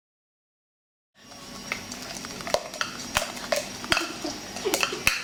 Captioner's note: dancing without music, awkwardly clattering buckets